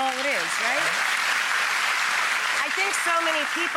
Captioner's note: audience claps